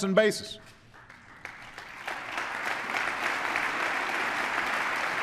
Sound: applause

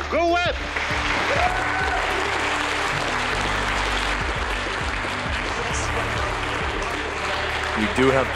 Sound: clapping, cheering

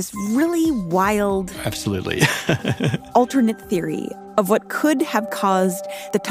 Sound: laughs

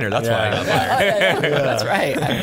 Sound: laughing

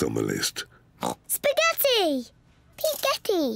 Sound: oinks

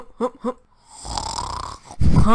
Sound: snores

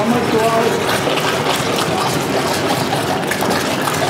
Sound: loud bubbling

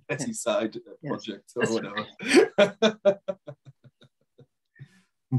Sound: laughing

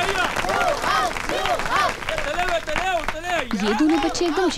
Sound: applauding

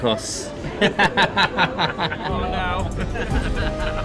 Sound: laughter

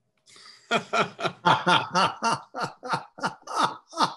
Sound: chuckles

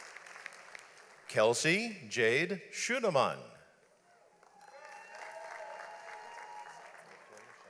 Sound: audience applauds

